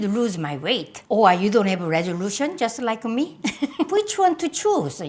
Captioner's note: laughs